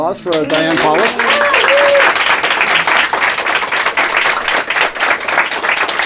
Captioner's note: applause